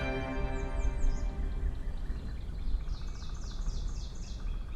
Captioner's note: birds chirping